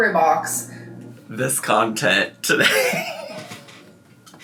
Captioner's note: laughing